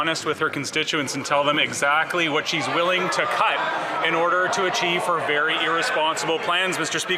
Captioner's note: some Applause